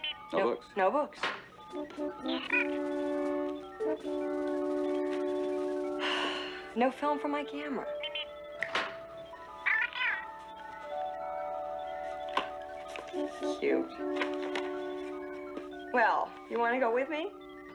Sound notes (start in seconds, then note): 6.0 sighs; 8.5 Steve Trevor snaps his Fingers